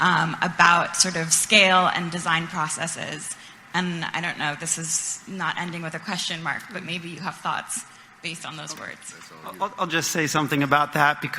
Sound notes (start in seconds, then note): 9.2 speaking far from the mic